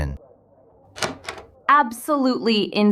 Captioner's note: SFX: door opens